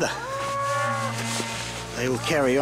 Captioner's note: cows lowing